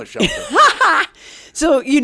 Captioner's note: laughs